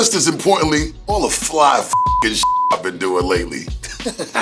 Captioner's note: beep; laughs